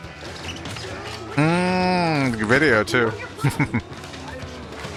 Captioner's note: chuckling